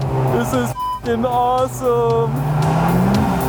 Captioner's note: beep